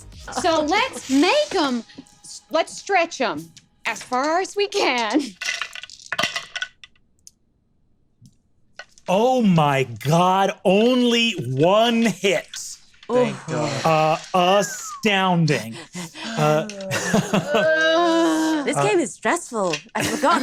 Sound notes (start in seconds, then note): 4.8 dice rattle; 13.2 laughs; 17.1 groans